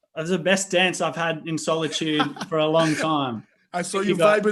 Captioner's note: laughing